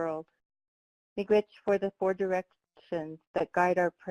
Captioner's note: speaking foreign language